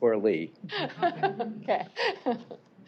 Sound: laughing

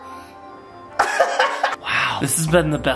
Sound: laughing

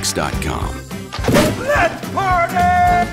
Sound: cake explodes

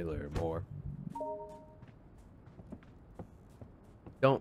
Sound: beep

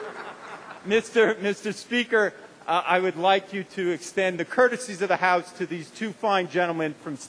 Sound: laughter

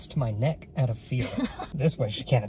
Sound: laughing

